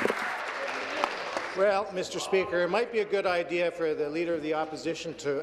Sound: applause

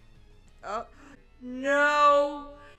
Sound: gasps

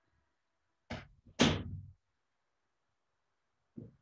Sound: door closing

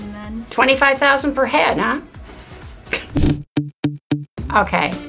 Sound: laughs

